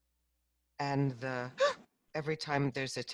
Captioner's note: gasps